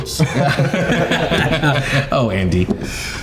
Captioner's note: all laughing